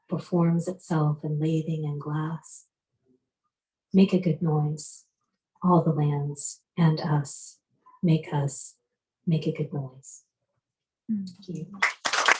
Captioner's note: applause